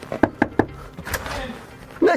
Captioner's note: golpes